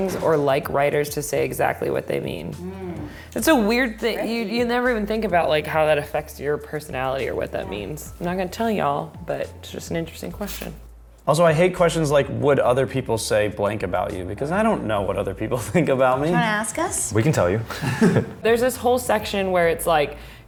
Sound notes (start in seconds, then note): 17.7 laughing